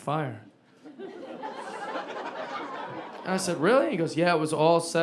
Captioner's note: audience laughing